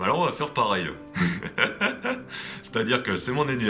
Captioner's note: laughs